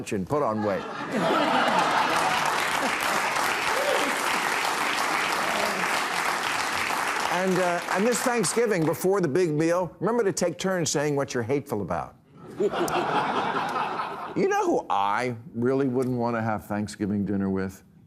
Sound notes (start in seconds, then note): 1.3 audience cheering, applauding